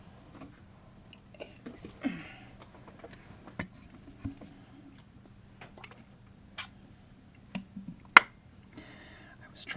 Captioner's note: chair creaking, drinking water